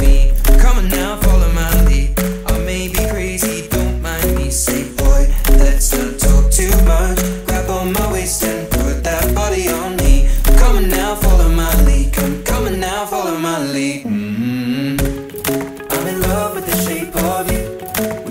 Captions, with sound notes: Come on now, follow my lead I may be crazy, don't mind me Say, boy, let's not talk too much Grab on my waist and put that body on me Come on now, follow my lead Come, come on now, follow my lead (mmmm) I'm in love with the shape of you